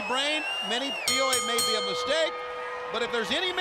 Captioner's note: bell ringing